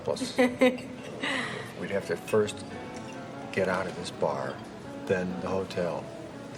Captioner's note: laughter